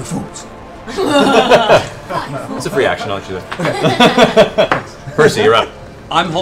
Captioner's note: laughs